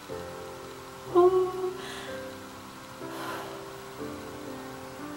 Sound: exhales

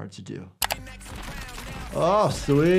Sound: funky songs plays; key clacks; gunshots firing

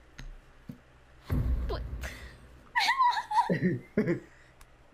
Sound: laughing

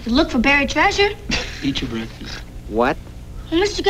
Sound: laughter

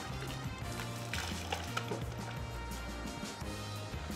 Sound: water splashing

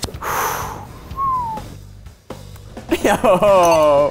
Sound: loud breathing, whistling; laughing

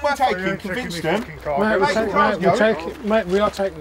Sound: arguing

